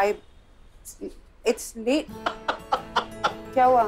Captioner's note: Rohit laughing aloud